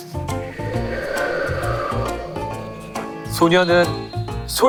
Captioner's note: A sound effect of wind